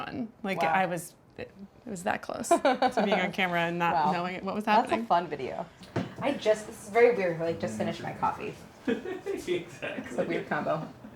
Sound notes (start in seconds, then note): 8.8 laughs